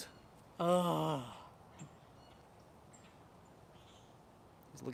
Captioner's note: birds chirping